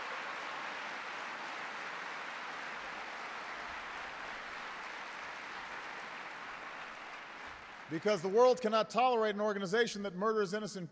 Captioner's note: applause